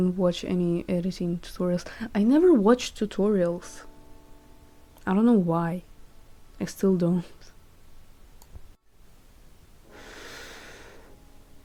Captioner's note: deep sigh